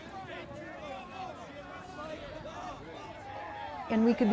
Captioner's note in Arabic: الجميع يصرخون